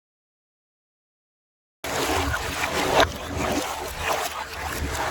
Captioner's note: water Splashing